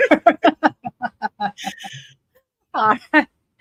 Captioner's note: laughs